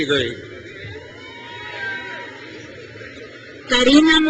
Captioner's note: crowd cheers